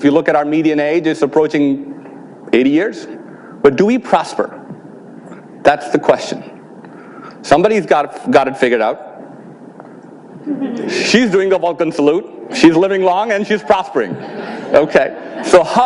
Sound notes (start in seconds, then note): 10.4 audience laughs